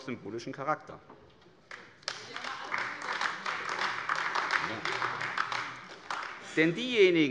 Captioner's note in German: Beifall : Die haben ja immer alles umgesetzt!